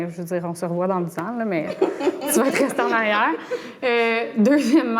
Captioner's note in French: rires